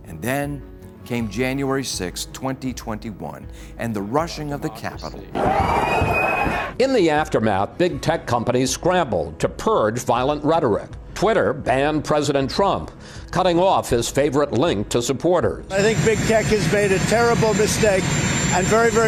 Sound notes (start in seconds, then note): 5.4 screaming